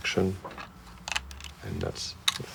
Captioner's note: plastic clicking